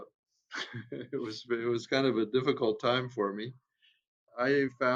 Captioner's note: chuckles